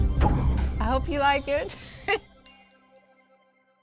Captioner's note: bells chiming; laughs